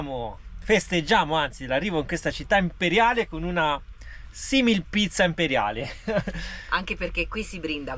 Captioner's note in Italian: risate